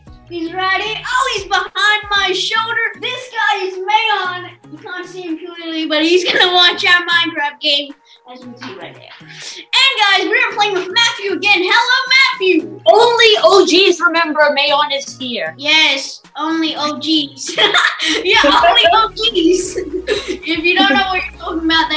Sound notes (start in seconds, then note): 17.4 laughs